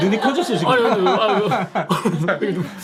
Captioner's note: sniffling